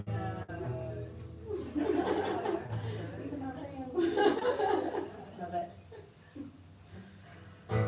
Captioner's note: laughter